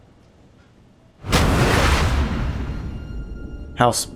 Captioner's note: splash